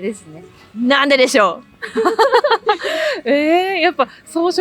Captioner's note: laughs